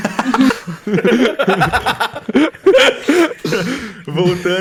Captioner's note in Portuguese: risadas